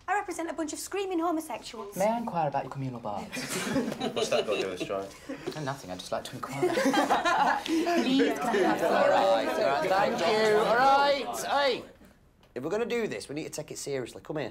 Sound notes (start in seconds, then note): 3.3 all laugh; 6.6 all laugh; 7.7 overlapping chatter